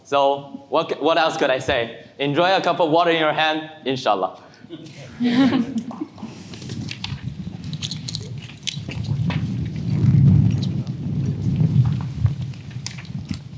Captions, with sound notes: So what else could I say? Enjoy a cup of water in your hand, inshallah. (attendees chuckling)